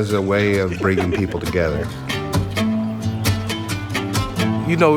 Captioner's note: both laugh